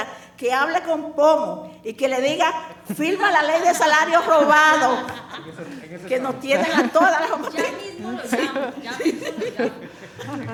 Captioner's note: speaking spanish